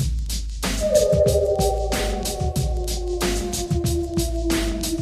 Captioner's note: electronic music; animal howling